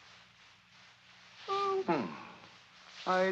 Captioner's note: mocking